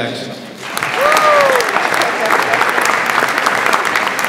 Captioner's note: audience applauds